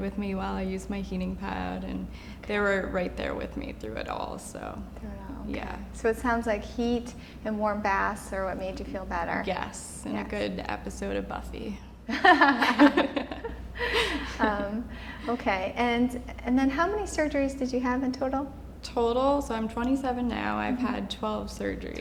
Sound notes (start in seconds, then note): 13.7 laughing